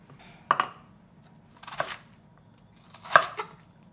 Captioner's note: knife chopping